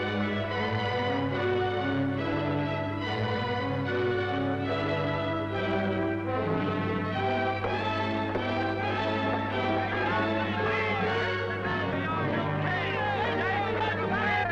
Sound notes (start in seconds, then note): 10.5 excited shouting